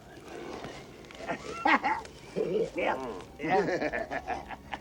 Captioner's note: men laughing; soft suspenseful music